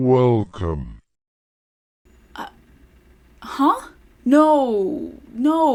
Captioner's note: exasperated noises